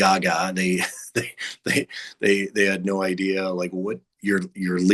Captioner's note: chuckles